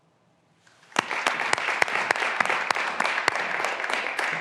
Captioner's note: graduands applauding